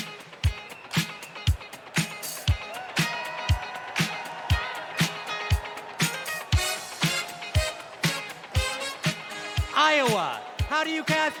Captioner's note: cheers and applause